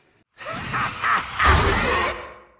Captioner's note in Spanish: risas